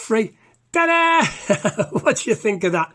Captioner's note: laughs